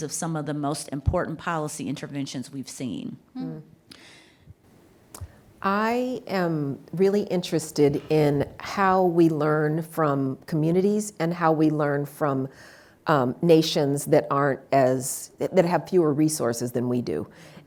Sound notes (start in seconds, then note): none